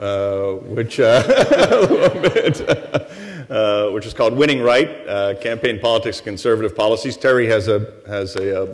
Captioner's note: laughter